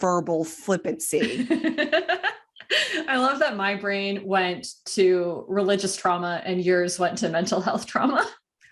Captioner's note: laughing